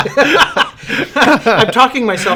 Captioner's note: laughter